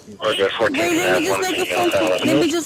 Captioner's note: radio chatter